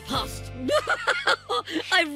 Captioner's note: laughs